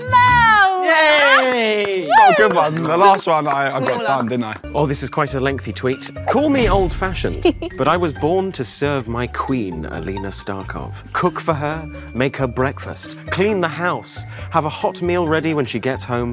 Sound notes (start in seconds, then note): 1.0 Ben claps; 1.9 Amita cheers